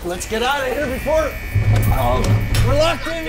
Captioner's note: alarm blaring